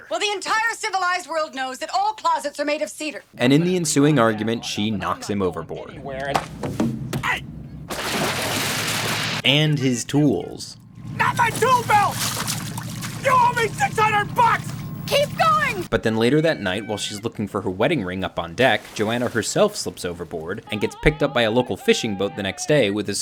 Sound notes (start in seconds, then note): 8.2 water splashes